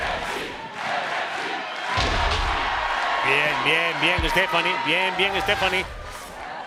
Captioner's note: applause